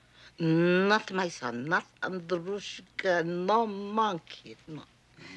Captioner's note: russian